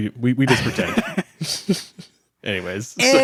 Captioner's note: everyone laughs